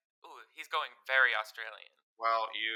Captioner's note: normal voice